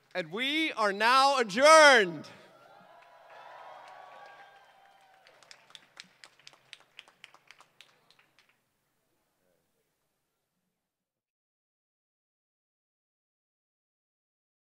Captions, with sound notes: And we are now adjourned. [CHEERING] [APPLAUSE]